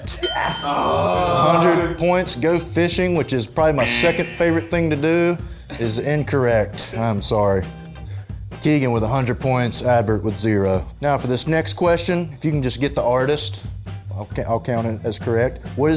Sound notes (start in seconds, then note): 0.0 ding; 3.8 buzzer